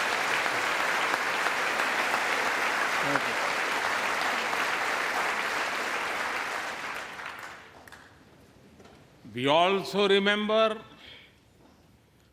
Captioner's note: applause